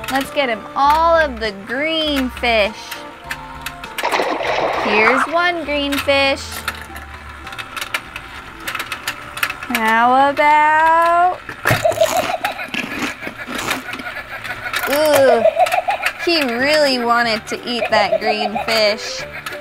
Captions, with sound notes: Let's get him all of the green fish. (water splashes) Here's one green fish. How about... (shark laughs) Oh, he really wanted to eat that green fish.